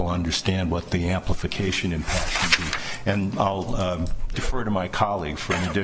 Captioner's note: drowned out by rifling paper